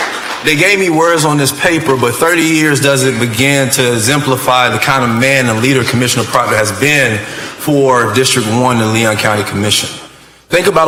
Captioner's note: applause